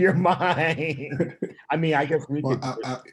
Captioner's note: laughing